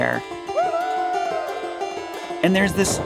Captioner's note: adventurer whooping